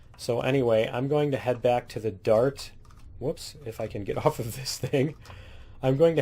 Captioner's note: laughs